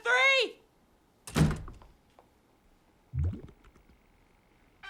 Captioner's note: door closes